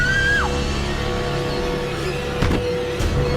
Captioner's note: screams